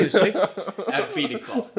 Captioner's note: laughs